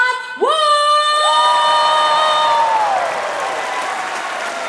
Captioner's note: cheering; applause